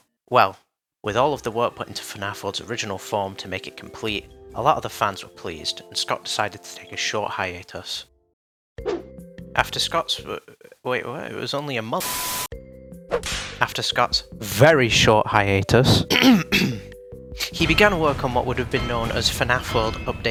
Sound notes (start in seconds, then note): 16.0 coughing